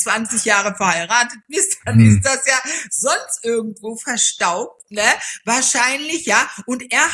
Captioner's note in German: räuspern